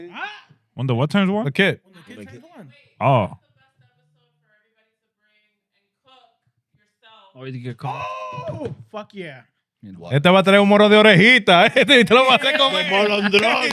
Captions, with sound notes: On the what turn? The kid. On the kid's one. That's the best episode for everybody to bring and cook yourself. Oh, fuck yeah. (Speaking In Foreign Language)